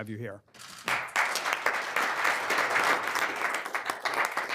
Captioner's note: applause